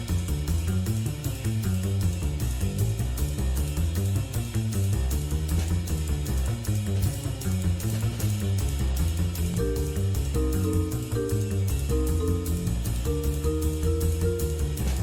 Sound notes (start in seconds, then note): none